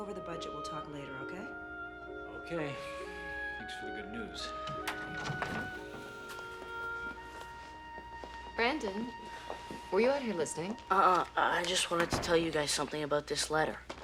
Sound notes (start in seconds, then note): 4.4 door opens